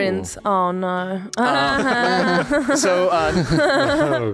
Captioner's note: laughing